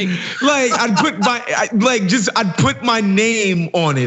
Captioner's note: laugh